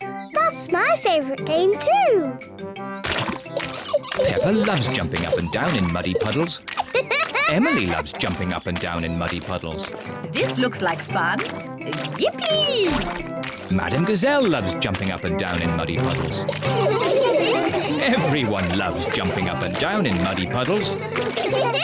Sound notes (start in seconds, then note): 15.4 all laugh; 21.6 laughs